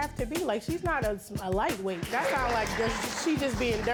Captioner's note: audience laughing